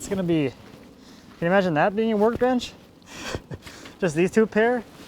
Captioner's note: laughs